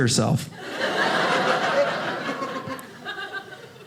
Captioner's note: audience laughing